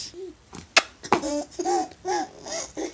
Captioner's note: adorable laughter